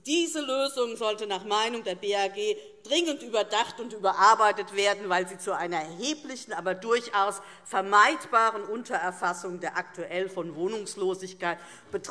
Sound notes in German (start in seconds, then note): none